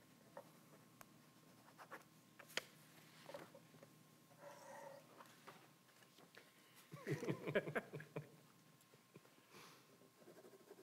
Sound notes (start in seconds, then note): 6.9 both chuckling